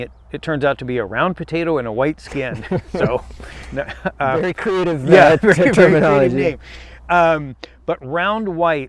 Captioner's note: laughing